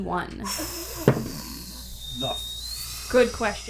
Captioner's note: loooooooooooooooooooooooong exhale